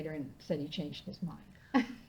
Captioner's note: laughing